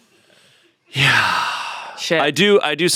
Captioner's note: sighs